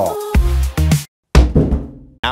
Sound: thud

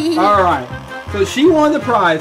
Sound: laughter

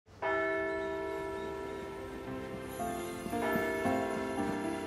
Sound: church bells ringing

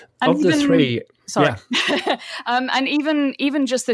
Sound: laughs

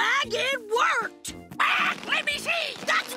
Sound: squawking

